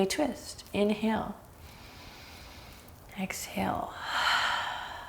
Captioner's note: deep breaths